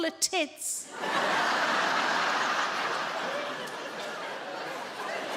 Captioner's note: audience laughing